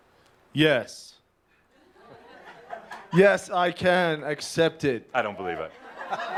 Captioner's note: he says it louder